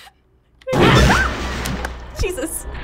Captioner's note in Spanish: ruge